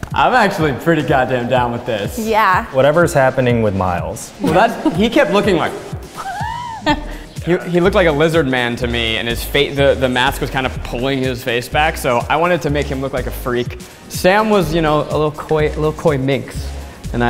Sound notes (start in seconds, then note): 6.4 chuckles